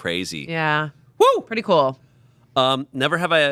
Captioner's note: whooping